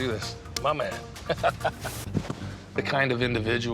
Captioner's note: laughs